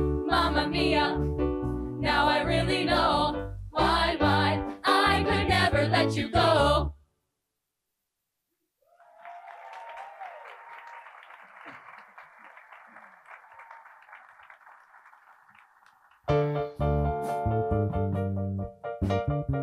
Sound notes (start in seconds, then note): 8.9 attendees applauding; 16.3 mellow piano music